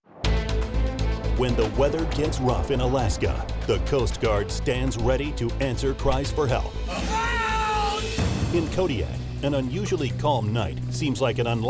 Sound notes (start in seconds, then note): 0.6 dramatic music; 6.8 screaming